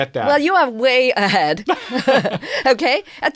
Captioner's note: laughs